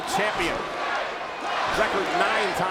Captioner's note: crowd chanting